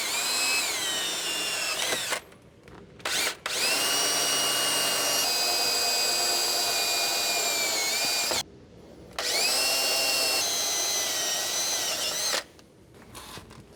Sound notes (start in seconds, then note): 6.8 drill Whirring